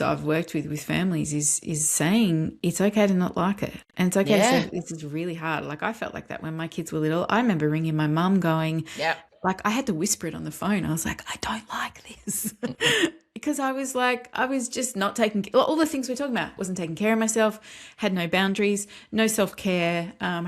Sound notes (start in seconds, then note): 12.4 laughs